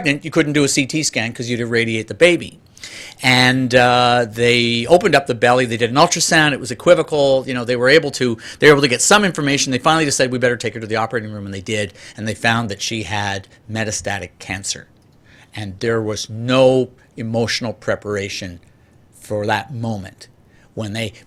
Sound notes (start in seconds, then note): none